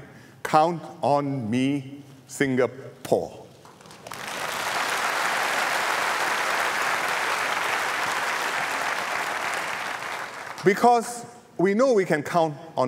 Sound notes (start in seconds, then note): 3.7 applause